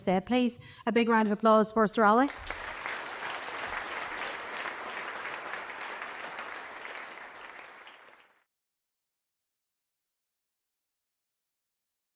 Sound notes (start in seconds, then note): 2.2 applause